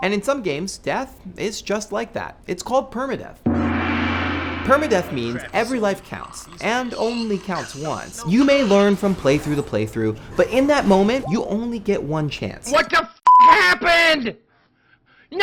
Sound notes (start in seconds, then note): 3.4 gong crashing; 13.4 yelling